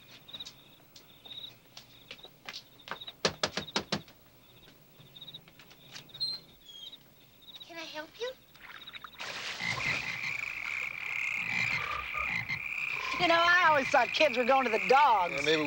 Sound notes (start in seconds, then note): 3.2 teacher knocking; 8.5 water splashing; 9.3 frogs croaking